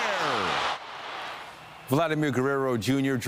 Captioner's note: applause